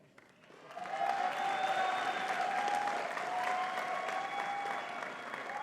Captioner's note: audience cheering and clapping